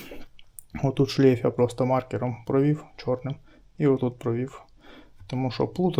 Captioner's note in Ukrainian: прочищення горла